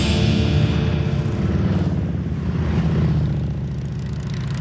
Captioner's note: engines roaring